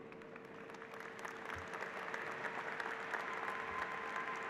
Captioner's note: applause